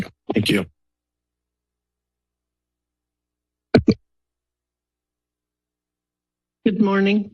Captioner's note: silence